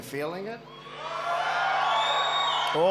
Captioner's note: applause